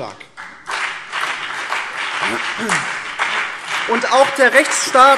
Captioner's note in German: Beifall BÜNDNIS 90/DIE GRÜNEN und vereinzelt CDU